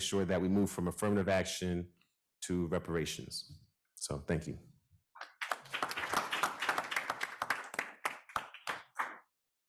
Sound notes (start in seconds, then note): 5.2 audience applauds